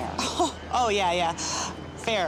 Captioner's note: laughs